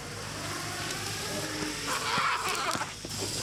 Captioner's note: Past Barry screams